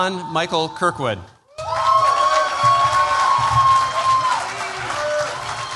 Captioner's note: cheers, applause